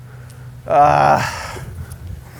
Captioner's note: grunts